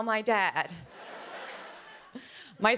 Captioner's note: laughter